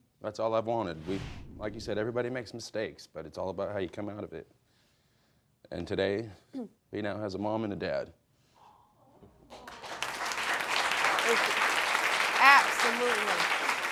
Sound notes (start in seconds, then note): 9.5 audience applauding